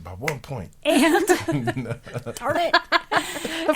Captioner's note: group laughing